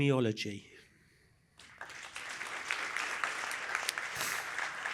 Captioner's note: applause